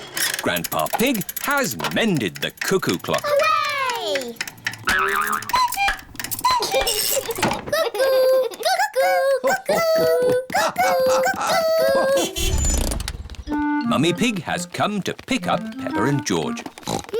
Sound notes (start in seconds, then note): 5.8 clock chimes; 6.3 laughs; 13.5 horn honks